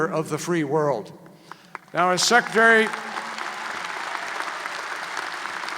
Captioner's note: applause